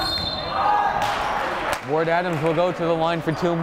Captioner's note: whistle blowing